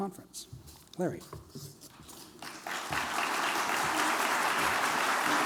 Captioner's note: applause